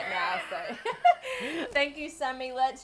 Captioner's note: laughing